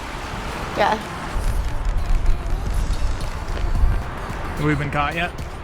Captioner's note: running footsteps